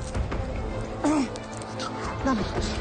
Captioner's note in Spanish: Quejidos